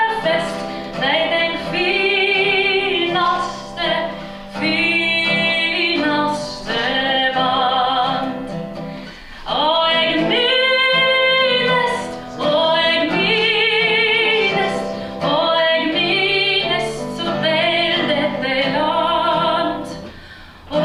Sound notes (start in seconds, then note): none